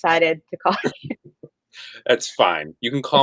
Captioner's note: laughing